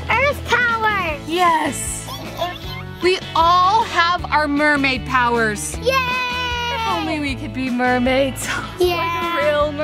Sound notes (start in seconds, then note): 2.1 Adley squeaking